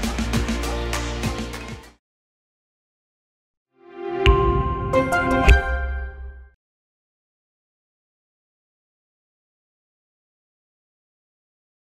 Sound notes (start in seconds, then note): 4.2 logo chiming